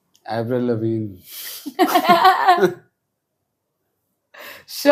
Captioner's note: laughs